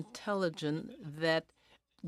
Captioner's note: speaking in french